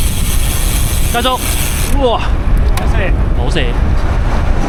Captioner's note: heavy Brake